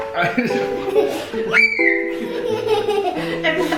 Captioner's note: laughing